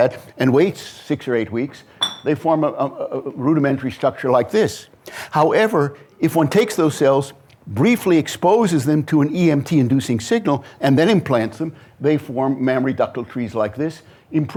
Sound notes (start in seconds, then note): none